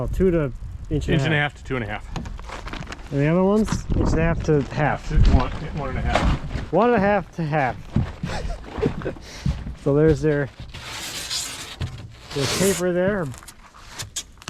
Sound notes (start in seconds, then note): 8.2 chuckling; 10.9 foam scraping